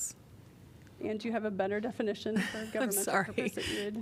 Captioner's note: laughter